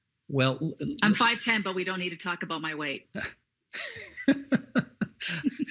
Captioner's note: laughing